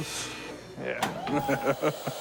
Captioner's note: laughs